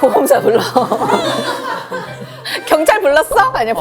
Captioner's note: sob sob